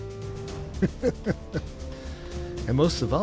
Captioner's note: laughs